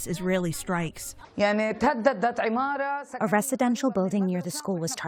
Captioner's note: through translator